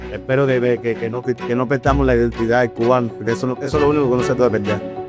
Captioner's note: speaker speaking in Spanish